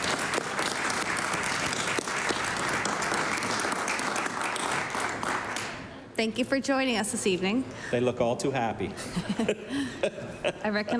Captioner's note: applause